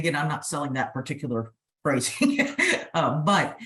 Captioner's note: laughs